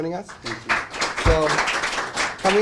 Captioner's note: applause